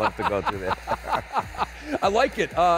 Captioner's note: laughing